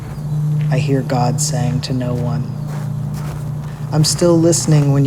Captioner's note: sound of footsteps on gravel